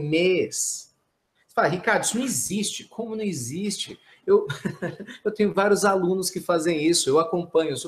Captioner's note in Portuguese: risos